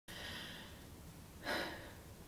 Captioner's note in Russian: тяжелый вздох